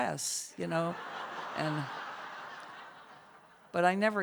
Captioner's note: laughter